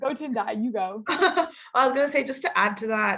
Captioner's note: laughing